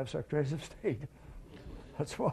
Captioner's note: laughter